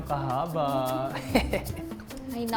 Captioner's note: laughing’